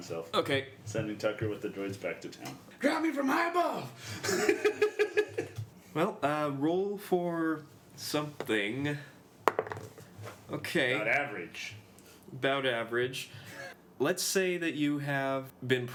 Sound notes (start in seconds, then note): 4.2 giggles; 9.5 rolls dice